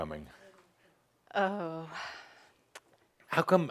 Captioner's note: she sighs